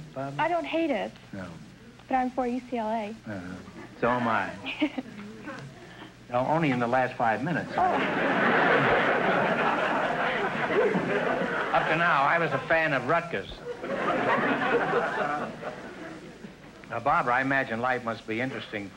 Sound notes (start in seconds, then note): 7.7 audience laughter